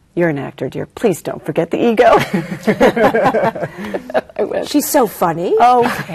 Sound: laughing

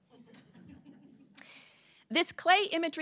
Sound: laughter

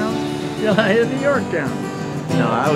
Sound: strums guitar; laughs

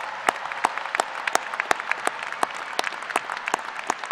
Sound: applause

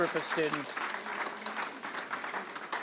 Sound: applause

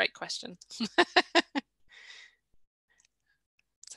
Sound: laughs

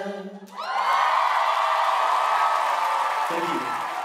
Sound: audience cheering

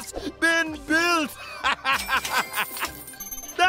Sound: laughing

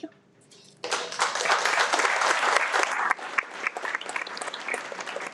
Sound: everyone applauds

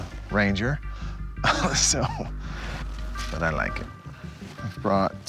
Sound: chuckles

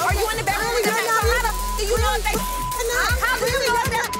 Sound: beep

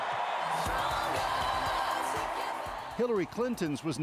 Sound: cheering and Applause

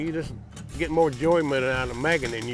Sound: welder buzzing

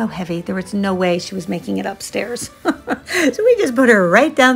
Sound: laughs

